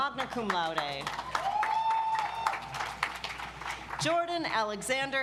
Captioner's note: audience applauds